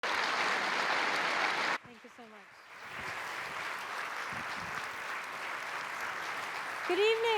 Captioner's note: applause